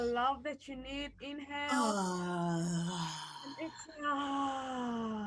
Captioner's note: exhaling audibly